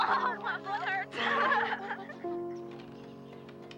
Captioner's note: both laugh